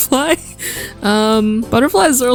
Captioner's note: inhale